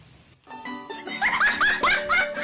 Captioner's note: laughing